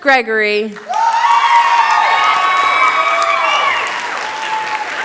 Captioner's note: cheering, applause